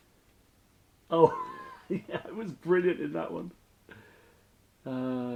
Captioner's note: laughs